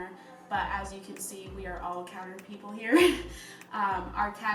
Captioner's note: laughs